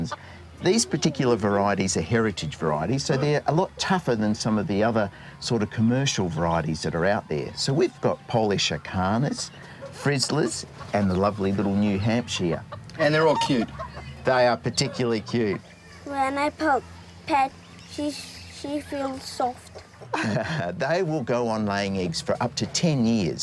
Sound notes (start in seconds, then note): 20.0 chuckles